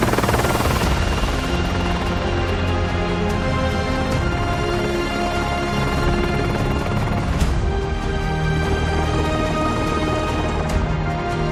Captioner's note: helicopter whirring